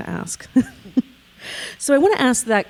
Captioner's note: chuckling